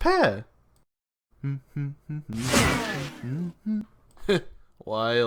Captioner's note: Pear hums AIB intro theme